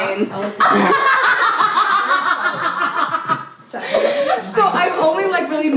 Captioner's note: laugh